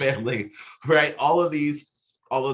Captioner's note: both chuckling